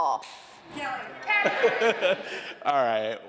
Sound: laughing

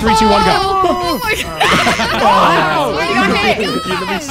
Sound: all screaming

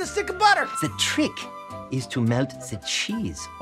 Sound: french accent

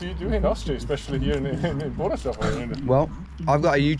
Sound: speaking foreign language

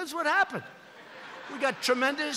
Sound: laughter

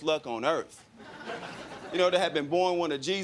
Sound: crowd laughing

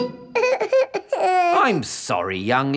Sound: whimpers

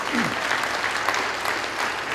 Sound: applause

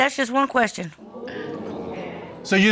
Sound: audience exclaiming

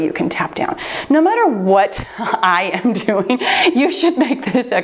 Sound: laughs

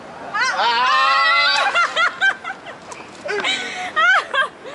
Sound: yelling and laughing

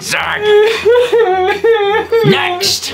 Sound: childish sobs of pure misery

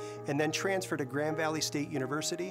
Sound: none

